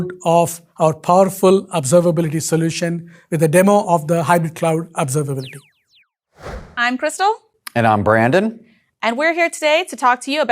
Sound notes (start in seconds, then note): 6.4 logo beeping whooshing